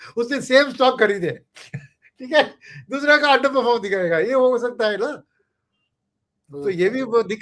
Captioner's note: laughter